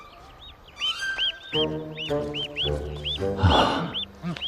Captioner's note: baby chick chirping